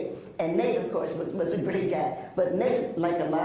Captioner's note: laughs